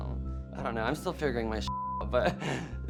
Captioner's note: beep